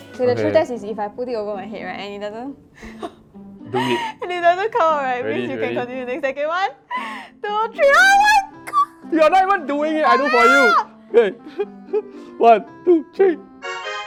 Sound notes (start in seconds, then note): 2.9 nervous laughter; 7.8 shrieks